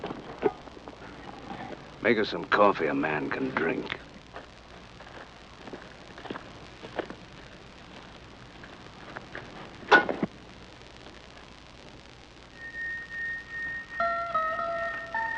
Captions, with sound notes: Make us some coffee a man can drink. [pot clangs] [suspenseful music]